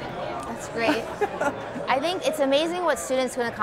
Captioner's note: chuckling